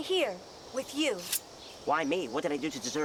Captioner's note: sword sheathed